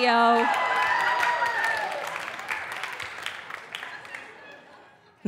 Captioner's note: audience cheering